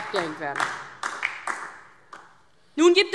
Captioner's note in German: Beifall DIE LINKE